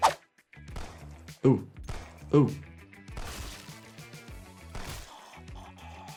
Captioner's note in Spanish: disparos de pistola